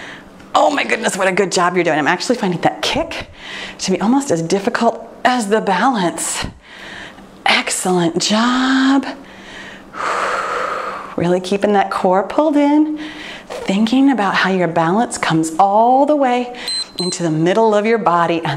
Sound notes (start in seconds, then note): 9.2 exhaling; 16.6 timer beeps